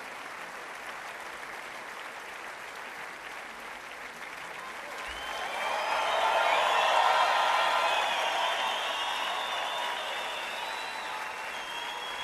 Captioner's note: applause